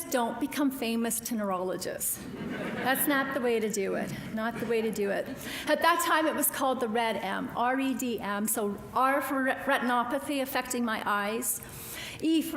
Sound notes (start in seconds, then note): 2.2 audience laughing